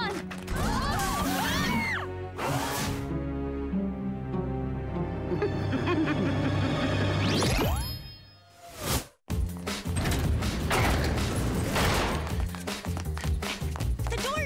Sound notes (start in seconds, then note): 0.6 screaming; 5.3 laughter